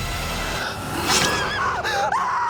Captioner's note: screams